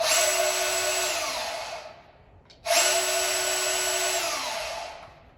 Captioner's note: power tool engine revving